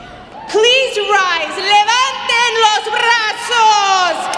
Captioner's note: speaking Spanish